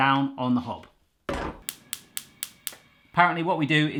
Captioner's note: thuds; clicking